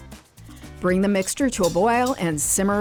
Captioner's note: whisk clacking